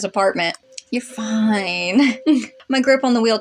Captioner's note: chuckle